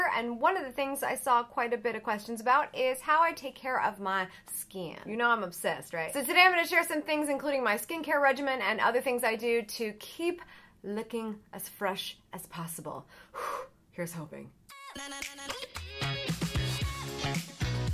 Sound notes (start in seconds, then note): 13.1 exhales; 14.7 funky music